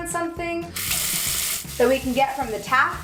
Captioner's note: water rushing